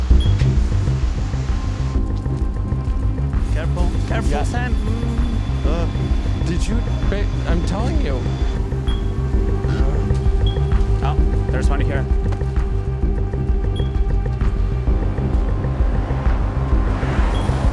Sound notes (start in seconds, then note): 0.1 alarm beeping; 4.4 groaning; 8.9 alarm beeping; 12.8 alarm beeping rhythmically